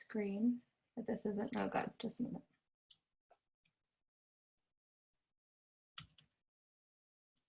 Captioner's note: mouse clicks